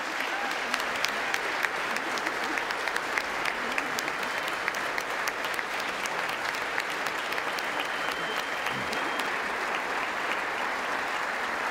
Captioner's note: applause